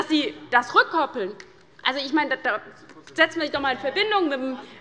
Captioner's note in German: none